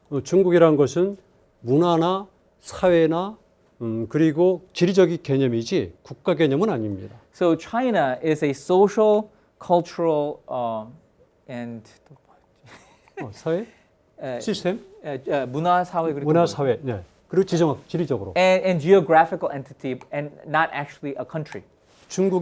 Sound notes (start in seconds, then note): 0.3 speaking in Korean; 12.6 chuckles; 13.7 speaking in Korean